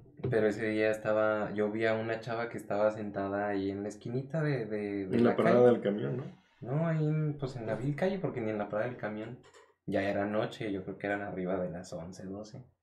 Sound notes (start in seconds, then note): none